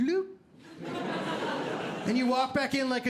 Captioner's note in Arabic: ضحك